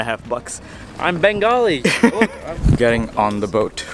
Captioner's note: laughs